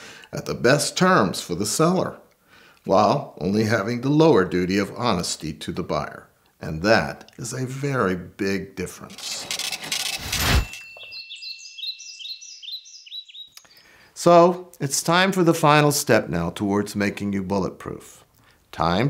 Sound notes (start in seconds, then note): 9.1 CASH REGISTER Ka-CHING!!!